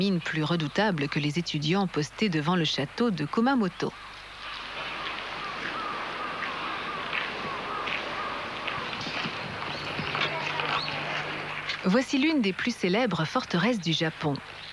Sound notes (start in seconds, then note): 10.0 applause